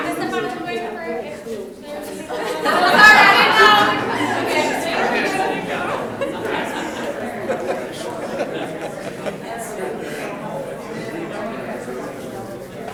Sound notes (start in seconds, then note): 1.3 people laughing drowns out speaker; 3.8 people chattering loudly